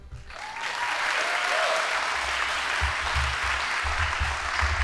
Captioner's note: audience applauding